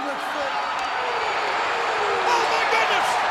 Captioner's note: spectators cheering